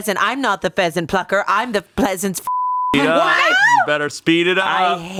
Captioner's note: beep